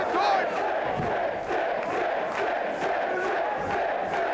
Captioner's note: crowd chants "Sid"